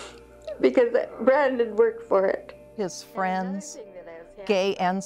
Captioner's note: with much emotion